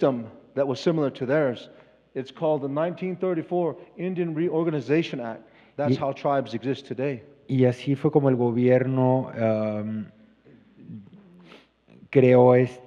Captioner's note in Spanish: Expositor habla en inglés